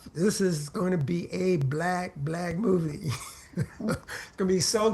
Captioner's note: laughs